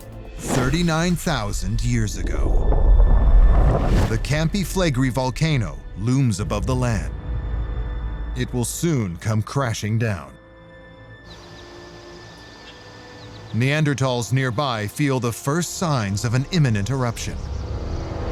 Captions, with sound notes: thirty-nine thousand years ago. [deep rumble] The Campi Flegrei volcano looms above the land. It will soon come crashing down. [birds chirping] Neanderthals nearby feel the first signs of an imminent eruption: